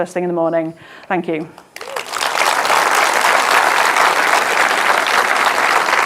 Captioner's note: audience applauding